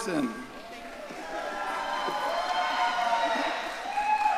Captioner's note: audience cheering